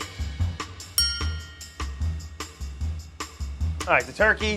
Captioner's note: percussive music; bell dings